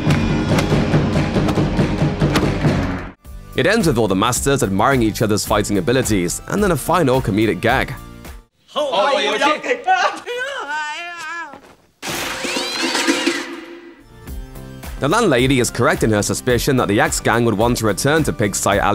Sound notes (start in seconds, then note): 10.2 yelling; 12.0 crash